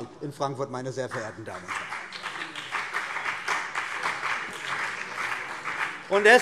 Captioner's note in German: Beifall BÜNDNIS 90/DIE GRÜNEN und vereinzelt CDU